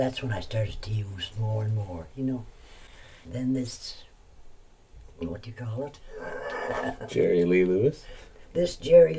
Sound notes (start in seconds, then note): 6.0 laughs